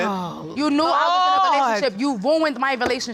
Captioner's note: exclaims